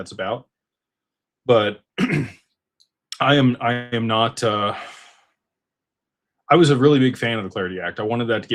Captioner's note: clears throat